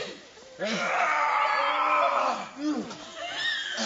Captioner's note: yelling